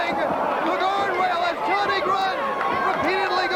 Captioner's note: crowd cheering